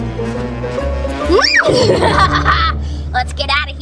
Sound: laughs evilly

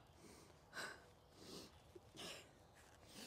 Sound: breathes heavily

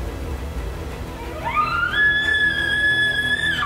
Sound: caller bugling

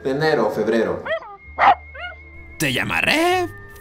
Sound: barks

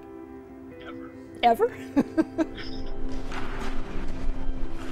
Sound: bright music; laughs

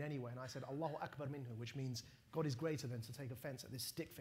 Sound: non-english

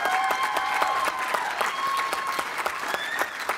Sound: applause

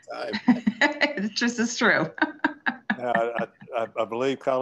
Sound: laughs

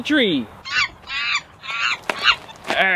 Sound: monkey screeches

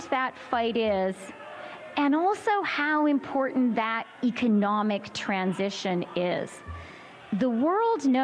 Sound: chanting "freedom"

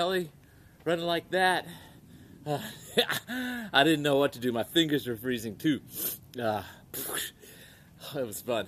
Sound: laughs

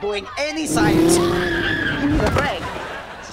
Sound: screaming

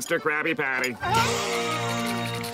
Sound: gasps

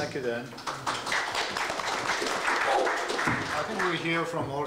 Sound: applause

